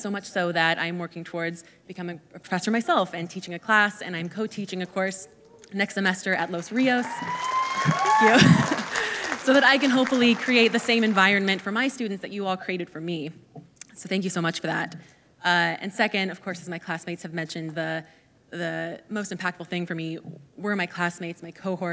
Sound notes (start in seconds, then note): 6.3 audience applauding